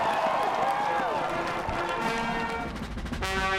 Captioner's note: cheers and Applause